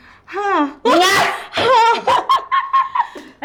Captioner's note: laughs